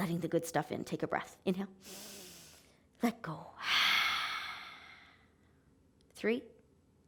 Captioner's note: inhaling; exhaling